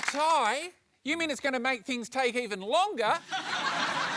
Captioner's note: laughter